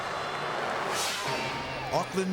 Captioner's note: suspenseful music; graphic swishes